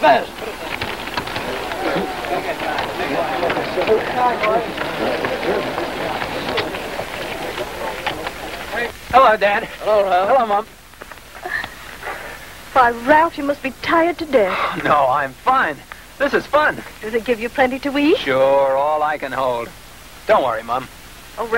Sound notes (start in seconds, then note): 0.9 men chattering indistinctly